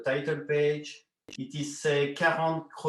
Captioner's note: foreign language